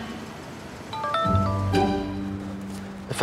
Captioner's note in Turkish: Telefon çalıyor